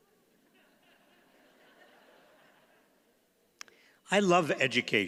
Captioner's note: audience chuckles